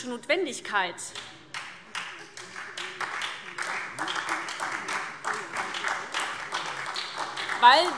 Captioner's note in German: Beifall SPD